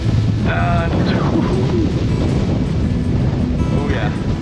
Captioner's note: wind pattering camera